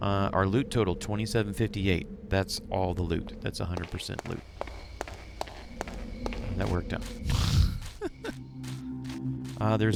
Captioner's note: laughs